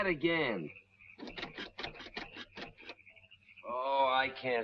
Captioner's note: engine ticking